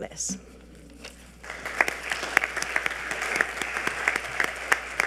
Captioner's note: audience applauding